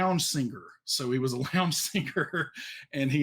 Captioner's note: laughs